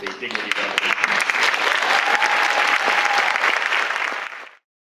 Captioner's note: applause